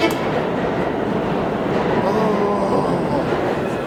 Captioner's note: moans loudly